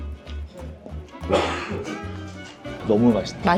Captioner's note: impressed